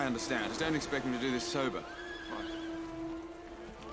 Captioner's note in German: Pferd wiehert